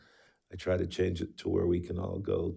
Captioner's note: none